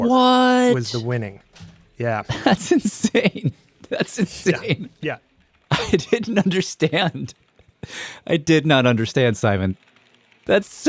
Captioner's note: laughs